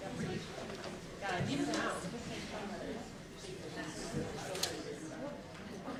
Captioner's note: softly talking at tables